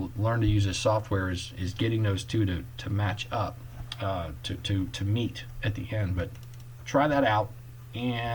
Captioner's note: clicking